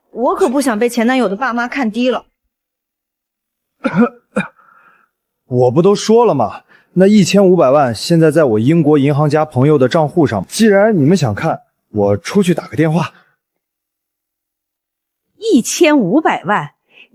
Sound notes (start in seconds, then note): 3.8 ahem